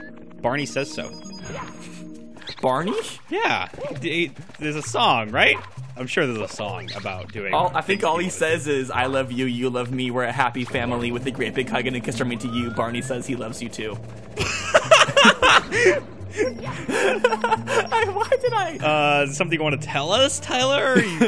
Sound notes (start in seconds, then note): 14.3 loud laughing; 16.3 giggling